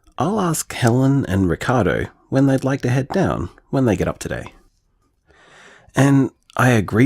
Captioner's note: none